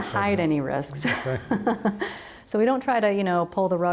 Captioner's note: both laugh